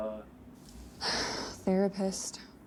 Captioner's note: heavy sigh